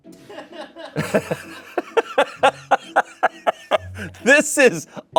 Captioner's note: Shayne laughs